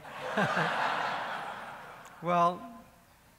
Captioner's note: laughing